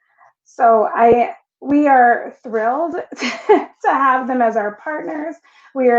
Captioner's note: laughing